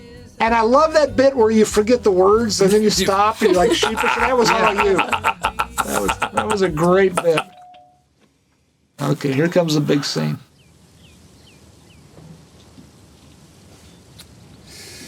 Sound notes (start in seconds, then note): 6.5 laughter